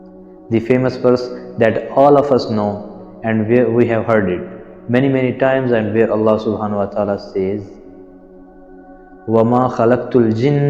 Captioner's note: Arabic